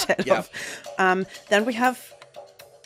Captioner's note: laughing